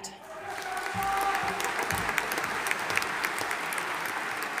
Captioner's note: audience applauding